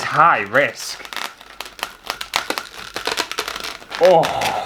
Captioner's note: balloons Squeaking